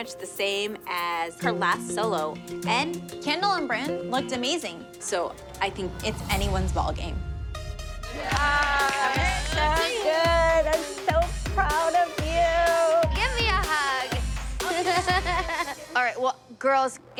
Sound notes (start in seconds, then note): 8.2 applause; 14.6 laughs